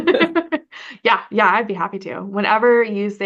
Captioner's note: laugh